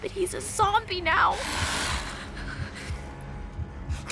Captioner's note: hisses